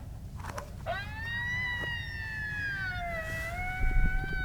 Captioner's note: howling